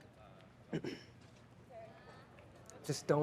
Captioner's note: Louis clears throat